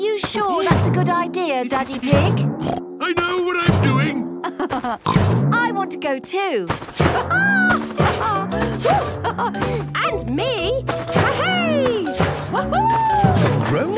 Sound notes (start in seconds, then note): 2.6 snorts; 4.4 laughs; 7.1 laughs